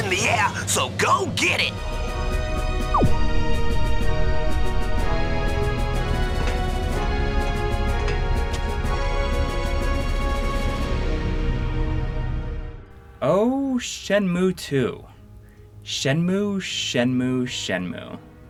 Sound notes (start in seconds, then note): 2.9 game audio